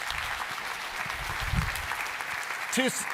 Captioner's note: applause